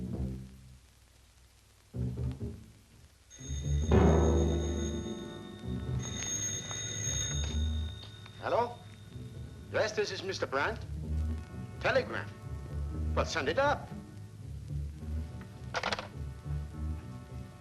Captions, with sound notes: [ Telephone ] Hello? Yes. This is Mr Brandt. A telegram? Send it up.